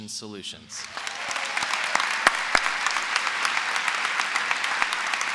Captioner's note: applause